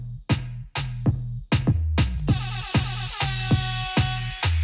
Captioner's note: siren effect blares